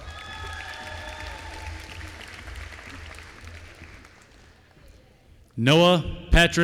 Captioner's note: applause